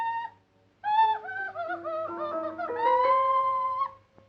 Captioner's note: yelling